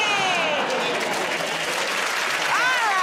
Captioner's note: applause